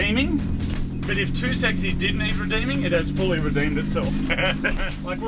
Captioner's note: laughing